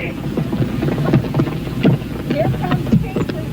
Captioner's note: soft thudding